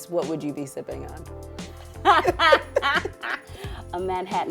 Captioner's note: laughter